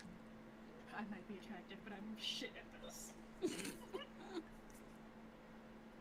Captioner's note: giggling